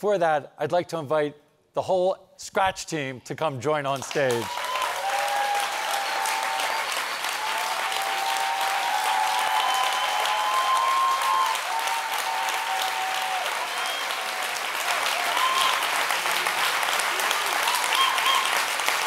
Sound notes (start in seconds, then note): 5.7 audience cheers and applauds